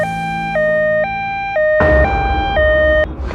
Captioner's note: ambulance